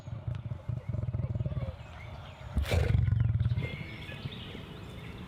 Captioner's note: low growl